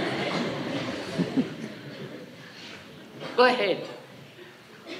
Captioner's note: laughter